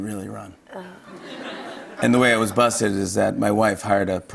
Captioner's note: light laughter